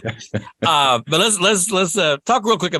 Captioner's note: laughs